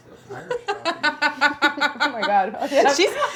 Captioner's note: laughing